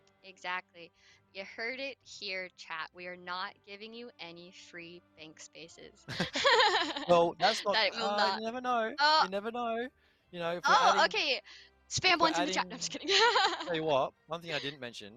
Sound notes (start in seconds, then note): 12.9 jokingly